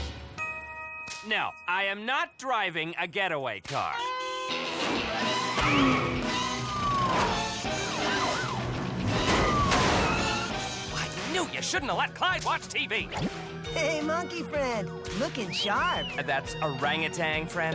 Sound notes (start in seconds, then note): 5.2 car peels away, police siren wails